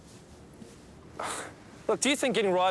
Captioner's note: Dave sighs